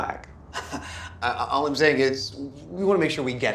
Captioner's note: chuckles